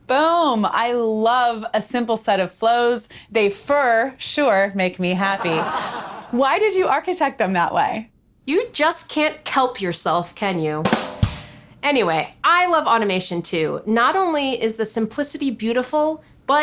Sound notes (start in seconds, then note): 5.3 studio audience laughing; 10.8 ba-dum ching drum music